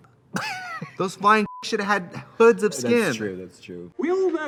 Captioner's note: Katya laughs; beep